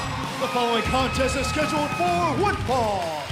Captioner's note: bell ringing